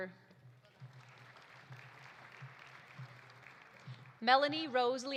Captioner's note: audience applauding